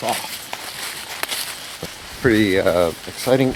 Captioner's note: leaves crunching